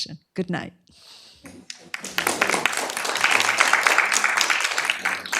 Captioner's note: applause